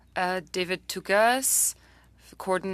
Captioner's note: speaking French